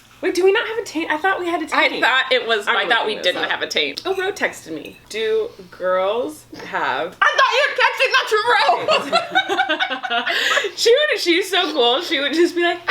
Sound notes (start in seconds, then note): 8.2 laughing